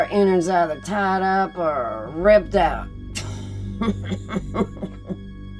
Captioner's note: laughing